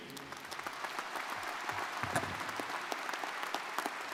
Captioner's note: crowd applauding